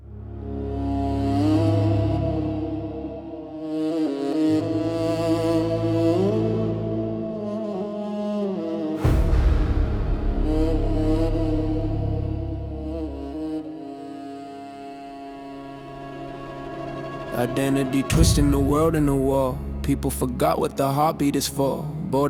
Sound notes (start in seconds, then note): 16.2 kaboom